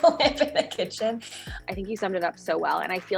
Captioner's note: laughing